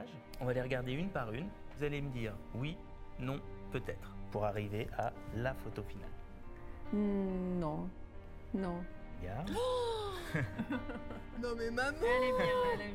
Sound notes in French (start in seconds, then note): 9.5 exclamation de surprise; 10.2 rires